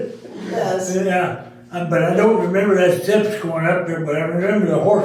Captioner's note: all Laughing Again